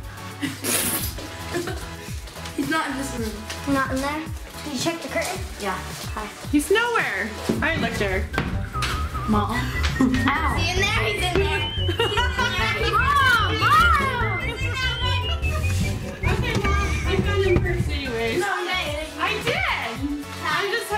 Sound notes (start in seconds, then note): 1.2 laughs; 9.1 whistling; 11.5 laughing